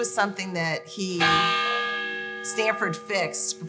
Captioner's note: clocktower bell sounds